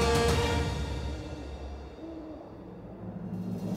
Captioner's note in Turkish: Baykuş sesi